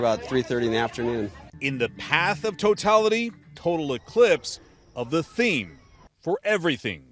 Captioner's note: voice-over